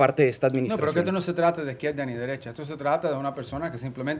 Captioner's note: speaking spanish